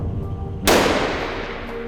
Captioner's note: gunshot